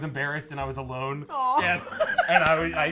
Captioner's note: chuckling